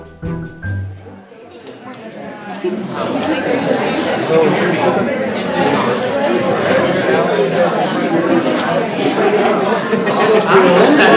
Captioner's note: audience talking